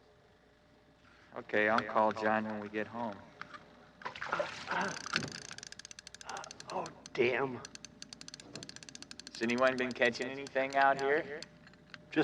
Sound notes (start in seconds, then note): 4.0 fish splashes; 4.2 reel whirring